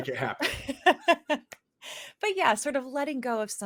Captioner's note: laughs